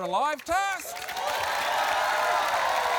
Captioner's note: cheering, applause